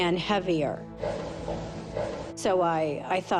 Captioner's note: thumping